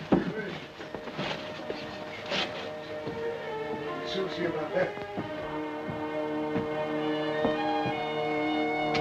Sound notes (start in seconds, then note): 2.7 tense music; 3.7 indistinct chattering